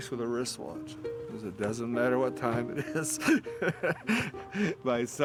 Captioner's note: laughing